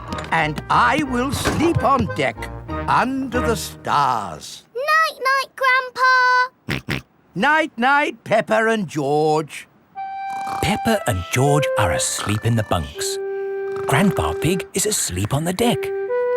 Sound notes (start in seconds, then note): 6.8 snorts